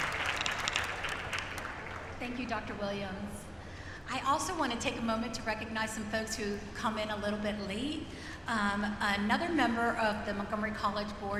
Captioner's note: applause